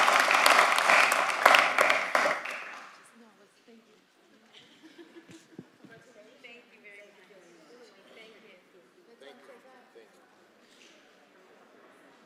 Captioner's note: applause